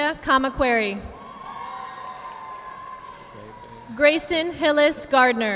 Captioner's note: audience applauding